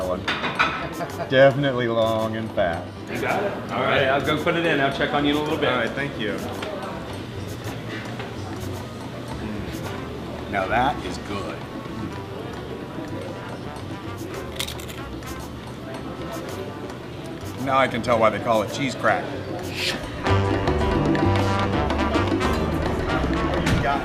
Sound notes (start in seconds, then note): 14.4 chip crunches; 19.9 upbeat Latin music continues